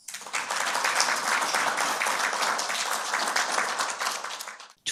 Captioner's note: attendees applauding